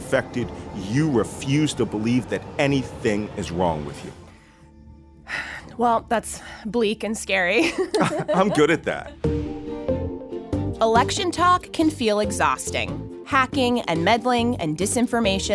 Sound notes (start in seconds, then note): 7.6 laughs